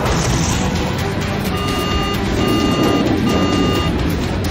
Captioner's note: beeping